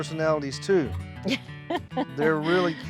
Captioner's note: chuckling